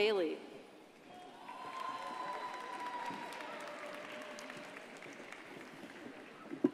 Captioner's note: crowd cheering and applauding